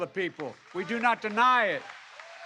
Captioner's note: applause